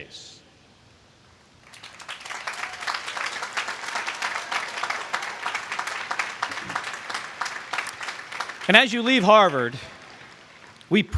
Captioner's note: applause